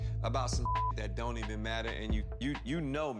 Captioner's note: beep